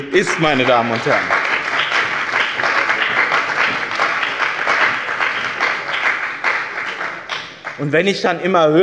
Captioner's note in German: Beifall bei dem BÜNDNIS 90/DIE GRÜNEN und der CDU